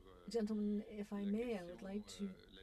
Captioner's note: speaking French